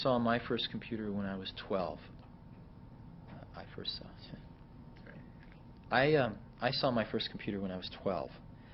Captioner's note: mumbles